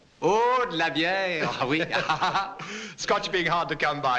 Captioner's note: speaking french